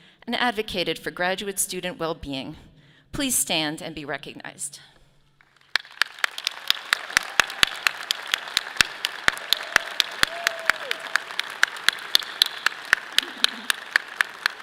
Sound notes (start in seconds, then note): 5.4 audience applauding; 5.5 clapping